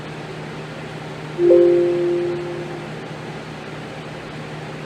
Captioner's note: computer sound